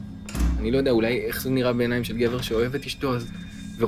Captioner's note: Hebrew